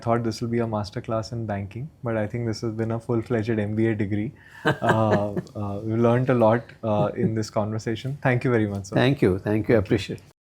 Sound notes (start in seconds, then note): 4.6 laughs